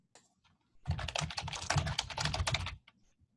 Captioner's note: typing